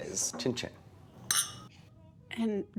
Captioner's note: glasses chink